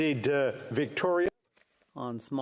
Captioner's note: speaking french